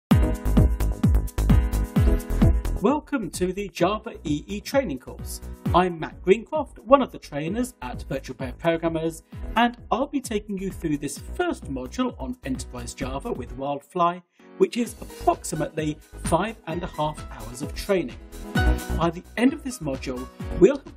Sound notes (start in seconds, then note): 0.0 upbeat electronic music; 3.0 voiceover